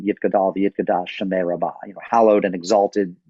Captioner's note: speaking in a foreign language